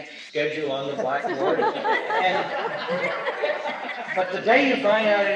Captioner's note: laughter